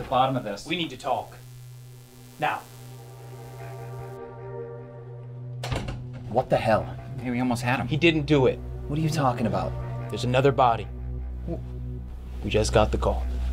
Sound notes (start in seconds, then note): 5.6 door closing